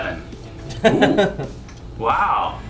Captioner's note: laughing